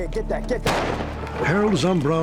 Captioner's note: gunshot